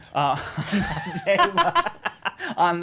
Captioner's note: laughing